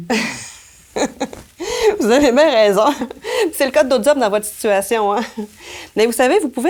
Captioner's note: laughs